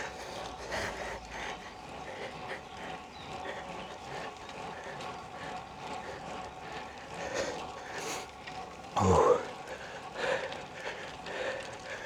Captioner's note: breathing